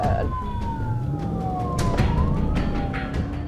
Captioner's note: engine revving